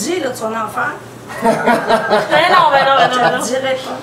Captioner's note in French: rires